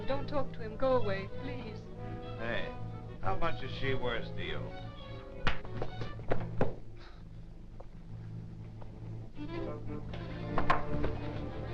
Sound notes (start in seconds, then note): 4.7 blow thudding; 8.0 grim dramatic music